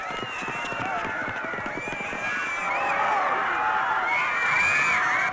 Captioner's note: screaming